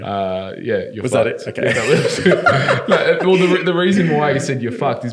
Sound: laughing

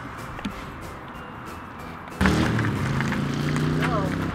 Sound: intense car engine sound

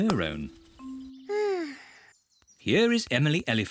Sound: sighs

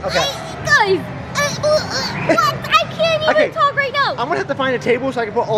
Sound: squeals

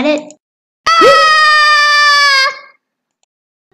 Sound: screams

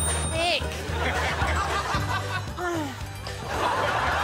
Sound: exertion groan

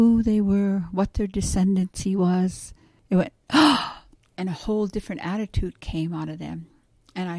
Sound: gasp

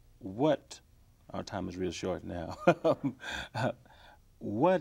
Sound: chuckles

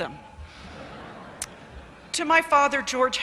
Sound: laughter

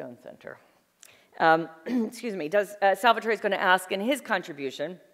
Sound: clearing throat

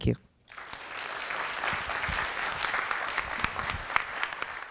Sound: applause

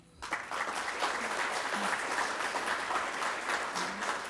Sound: applause

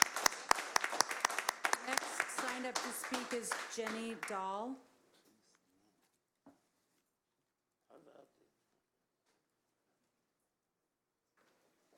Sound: applause

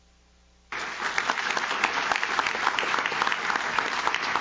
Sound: audience claps

